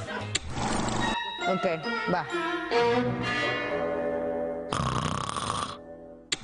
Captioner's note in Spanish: hablan en inglés; risas